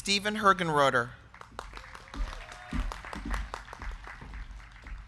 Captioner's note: crowd clapping